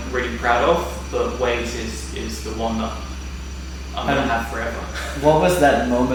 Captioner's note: laughs